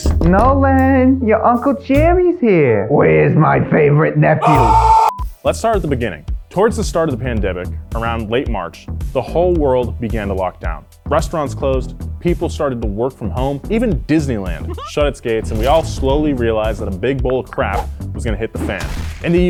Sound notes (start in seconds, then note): 4.4 screaming